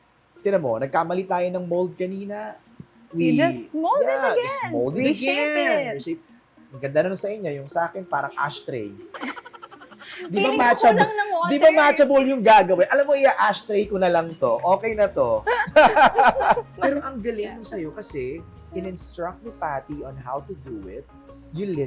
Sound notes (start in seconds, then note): 9.1 laughs; 15.4 laugh